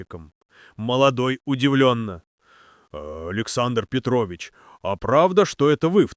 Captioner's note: surprised